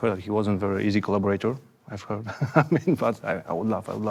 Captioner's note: laughs